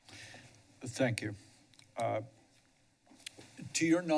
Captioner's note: pause